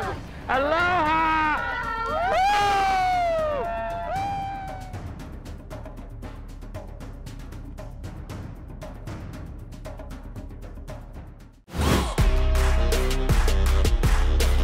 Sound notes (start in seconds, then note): 2.0 whooping; 4.3 drums beating